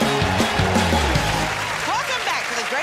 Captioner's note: cheers and applause